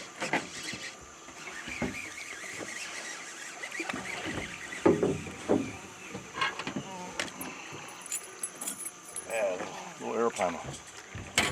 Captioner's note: reel cranking